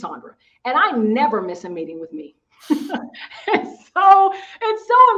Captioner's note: laughing